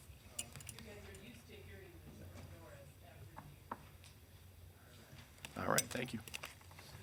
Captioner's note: speaking distantly